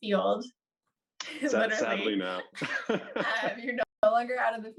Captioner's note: both laugh